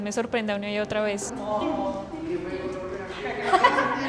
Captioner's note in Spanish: tarareo y risas